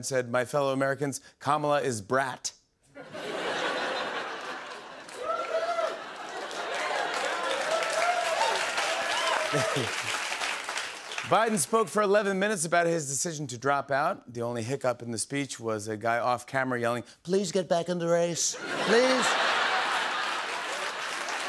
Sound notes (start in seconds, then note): 3.0 laughter; 5.5 cheers and applause